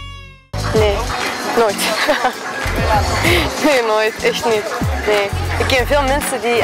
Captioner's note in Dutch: lacht